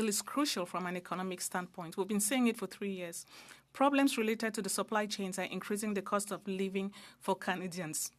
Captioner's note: speaking French